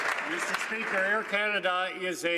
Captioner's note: some Applause